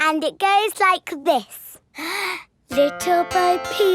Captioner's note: inhales